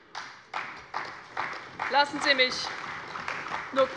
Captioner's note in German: Beifall bei der CDU und dem BÜNDNIS 90/DIE GRÜNEN